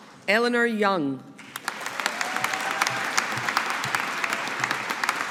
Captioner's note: audience applauding